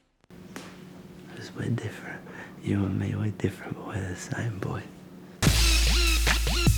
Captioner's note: whispers